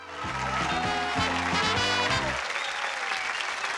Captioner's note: applause